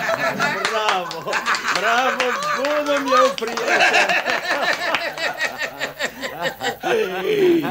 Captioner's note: sound of hysterical laughter